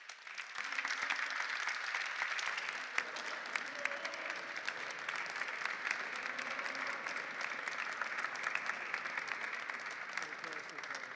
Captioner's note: applause